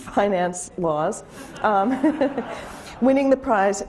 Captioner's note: laughing